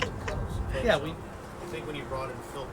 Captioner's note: laughing